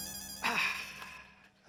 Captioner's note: sighs